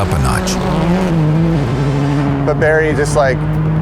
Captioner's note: engine revving